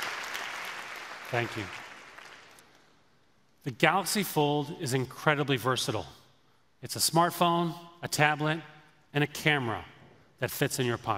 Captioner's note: applause